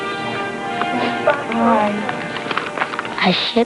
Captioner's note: all saying goodbye